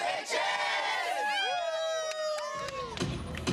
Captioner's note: cheering